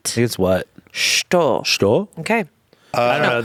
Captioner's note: speaking foreign language